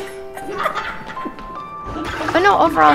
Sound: laughing

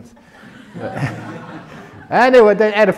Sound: laughter

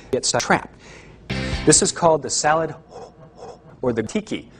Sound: breathing in and out

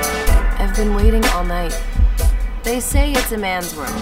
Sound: voiceover

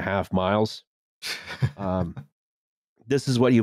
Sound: chuckles

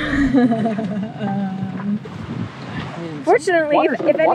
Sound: laughs

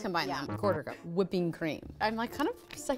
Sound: buzzer sounds

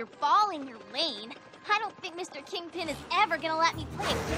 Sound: screech!

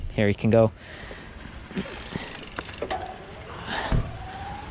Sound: bicycle whirring

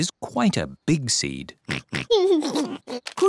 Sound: oinks and giggles

